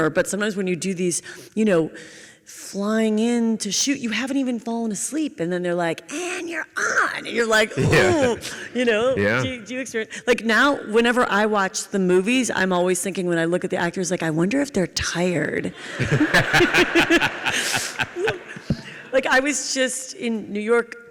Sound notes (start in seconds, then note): 15.8 Tim and audience laugh